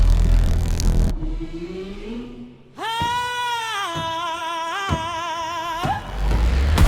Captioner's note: humming